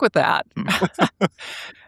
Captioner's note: laughing